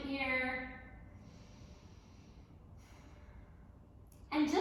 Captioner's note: deep breath